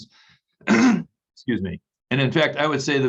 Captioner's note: clears throat